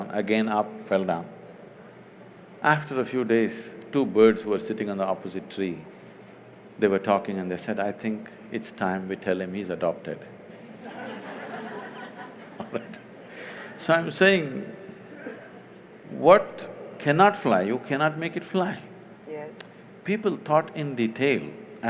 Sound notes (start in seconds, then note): 10.6 laughter; 10.7 laughs